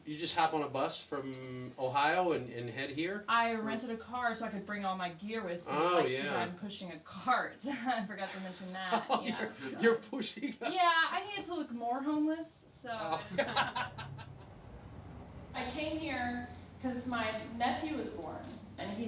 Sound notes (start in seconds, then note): 8.7 laughs; 13.0 laughing